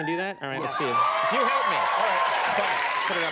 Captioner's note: audience cheers